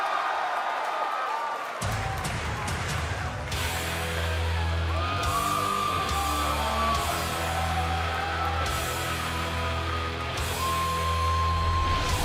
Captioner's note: fans chanting; cheers and applause